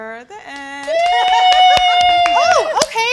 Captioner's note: excited yell